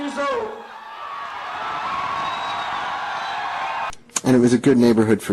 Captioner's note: cheering